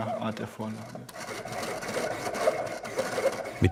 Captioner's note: scratching noises